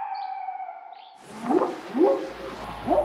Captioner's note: barking; whooping sound